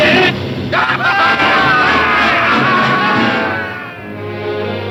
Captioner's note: dramatic music; man laughing; lively orchestral music